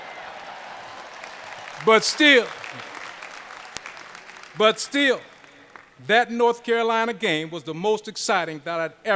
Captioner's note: applause